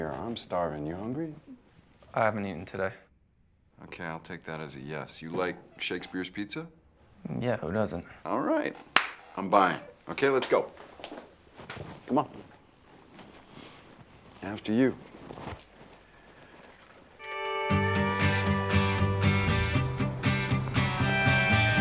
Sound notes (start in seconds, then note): 8.9 Jeff claps; 17.2 rhythmic country rock music with twangy guitar